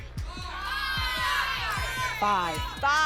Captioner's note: audience shouting numbers